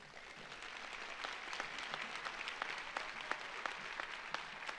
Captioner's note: audience applauds